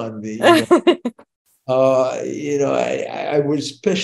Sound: laughing

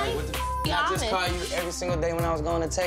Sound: beep

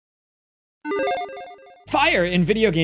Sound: logo beeping

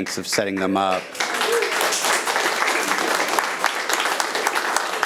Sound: attendees applauding

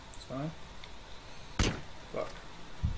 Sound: sniper fire

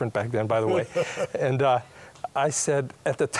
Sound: laughter

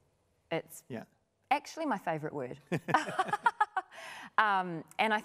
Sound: laughing

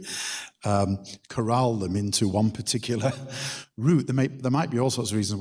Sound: chuckles

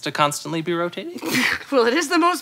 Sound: scoffs

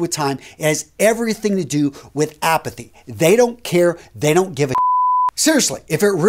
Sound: beeping sound

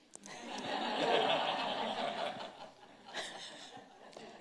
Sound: audience laughing

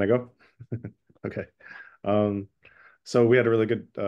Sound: chuckles

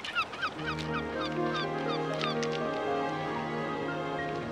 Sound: gulls

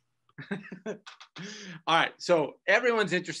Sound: laughs

